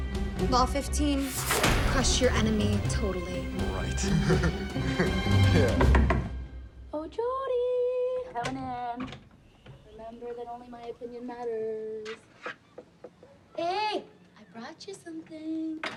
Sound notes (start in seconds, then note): 3.9 chuckles; 5.4 knocking